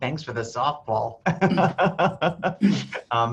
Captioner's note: laughs